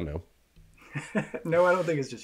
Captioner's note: laughs